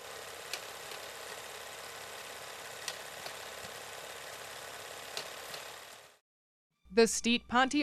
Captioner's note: film reel spinning